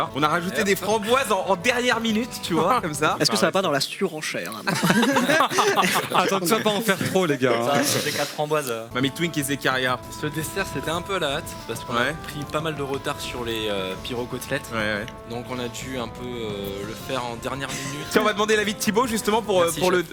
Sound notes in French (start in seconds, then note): 4.6 rires